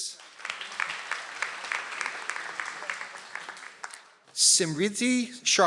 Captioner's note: audience applauds